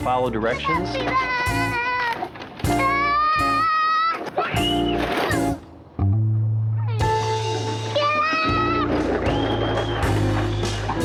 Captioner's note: screaming as he rides wagon downhill